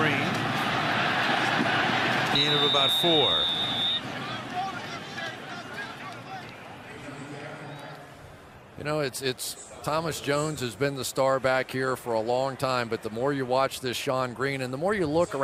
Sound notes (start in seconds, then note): 4.0 whistle blowing; 7.3 stadium announcements